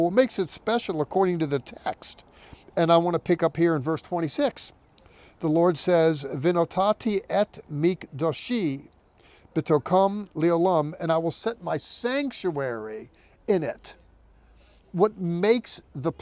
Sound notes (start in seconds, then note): 7.3 speaking in Hebrew